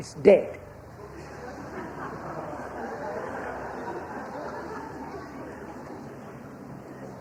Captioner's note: laughter